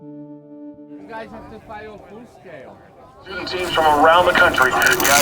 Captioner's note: background talking